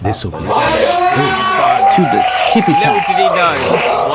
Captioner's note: cheer